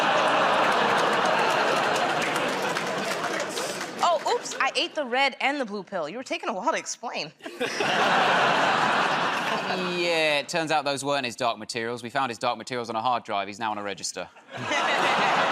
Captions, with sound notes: [ Audience groans ] -Oh. Oops. I ate the red and the blue pill. You were taking a while to explain. -Yeah. It turns out those weren't his dark materials. We found his dark materials on a hard drive. He's now on a register.